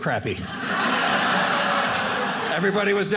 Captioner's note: audience laughing